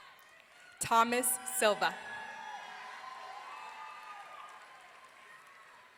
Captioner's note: audience cheering